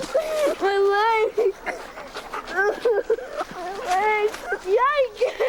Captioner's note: crying